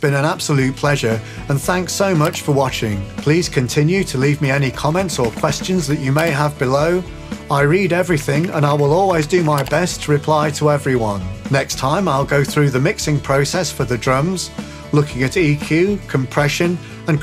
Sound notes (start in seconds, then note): 2.2 computer mouse clicks; 5.2 computer keys clacking; 7.9 computer keys clacking; 8.2 computer mouse clicks